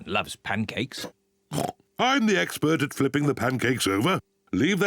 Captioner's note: oinks